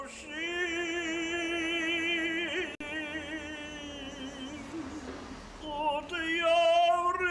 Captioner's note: chanting